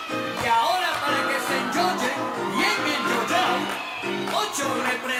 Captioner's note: audience cheering